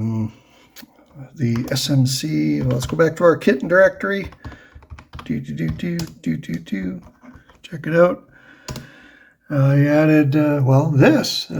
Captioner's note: happy noises